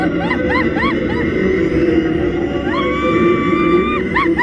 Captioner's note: screaming continues